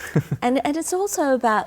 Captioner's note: laughing